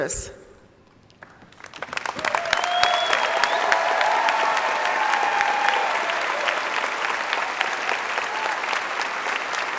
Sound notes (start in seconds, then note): 8.0 applause